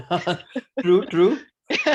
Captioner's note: laughs